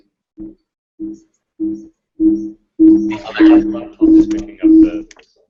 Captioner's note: beeping noise